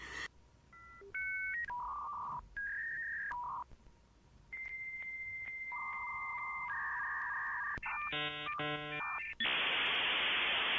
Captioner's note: dial up sounds